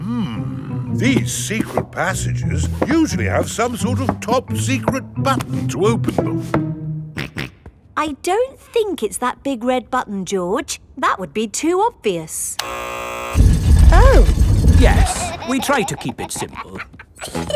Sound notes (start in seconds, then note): 7.1 snorts; 12.6 buzzer sounds